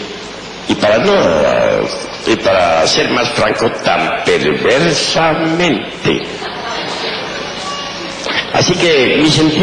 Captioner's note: audible laughter